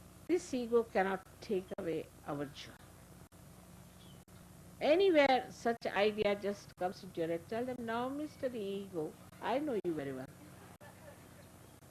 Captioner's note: laughter